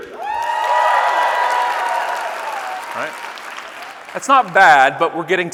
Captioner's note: audience cheering and clapping